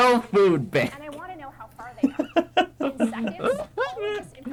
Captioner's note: both laugh in entrusting AI with the news